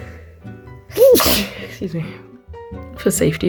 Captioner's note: sneezes